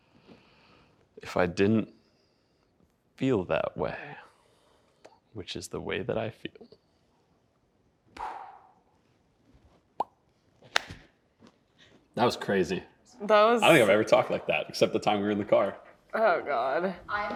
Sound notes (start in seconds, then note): 8.4 heavily sighs; 10.0 lips pop